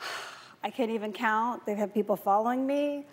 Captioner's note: sighs